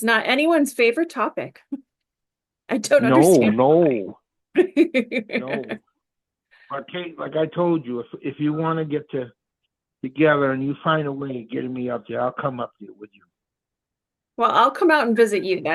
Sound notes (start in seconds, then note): 1.8 laughter